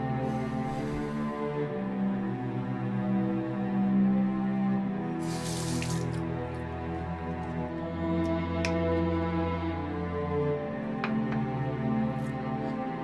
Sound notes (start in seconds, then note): 0.2 exhales; 5.2 running water